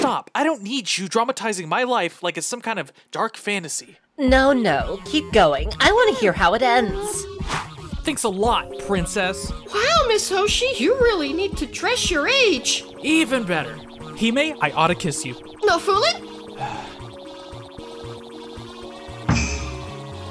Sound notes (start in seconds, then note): 16.6 sighing